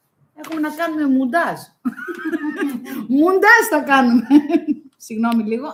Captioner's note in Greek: γέλια